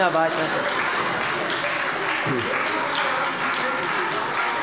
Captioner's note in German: Beifall bei der CDU